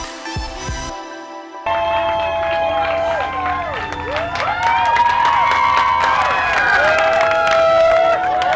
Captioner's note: cheering